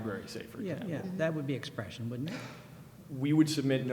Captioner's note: voiceover